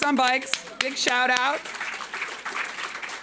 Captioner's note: audience clapping